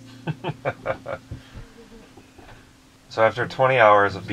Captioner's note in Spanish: risas